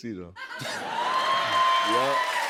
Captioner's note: laughters, cheers, applause